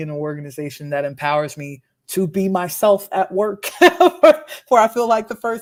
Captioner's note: laughs